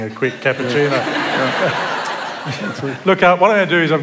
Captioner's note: laughter